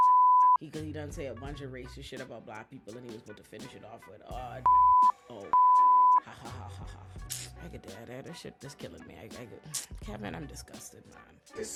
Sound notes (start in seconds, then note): 0.0 beep; 4.6 beep; 6.2 laughing